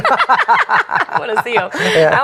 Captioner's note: laughs